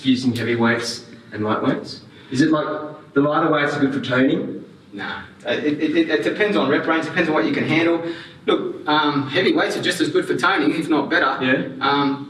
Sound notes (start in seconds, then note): none